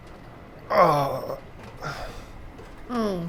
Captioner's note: Lukas groans